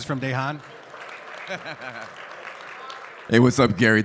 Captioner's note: man laughs